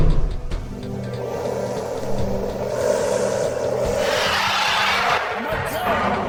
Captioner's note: angry hissing and roars; whoosh